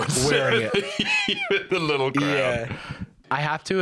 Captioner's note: laughing